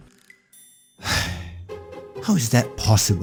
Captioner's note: sigh